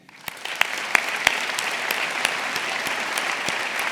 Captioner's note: audience applauding